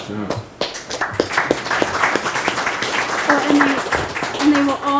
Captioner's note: members clapping